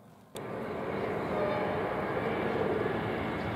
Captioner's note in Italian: strombazzata treno Italo